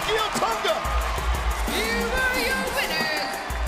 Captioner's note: crowd cheering